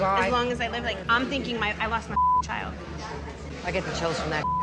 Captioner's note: beep